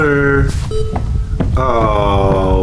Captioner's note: footsteps